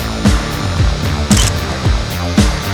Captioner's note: photo Click